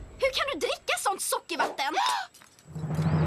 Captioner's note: gasps